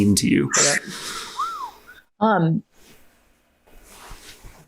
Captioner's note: whistles